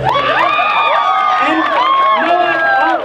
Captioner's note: crowd cheers